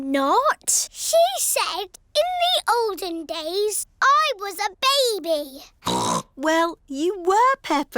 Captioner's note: snorts